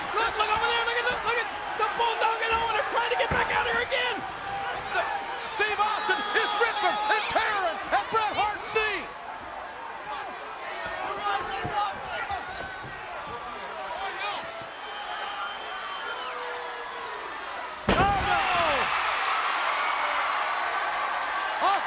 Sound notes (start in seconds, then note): 9.6 crowd yelling; 19.0 crowd cheering